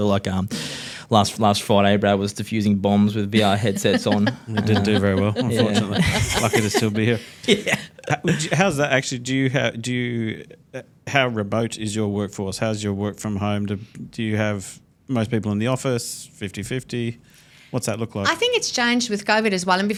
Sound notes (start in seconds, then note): 3.3 laughing; 7.3 laughs